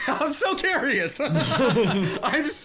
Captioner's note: laughing